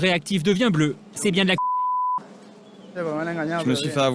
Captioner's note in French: bip